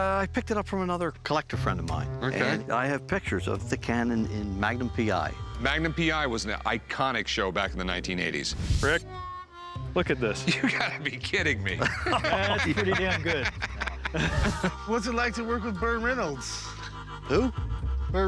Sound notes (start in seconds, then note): 10.3 laughter; 10.4 laughing; 14.3 laughter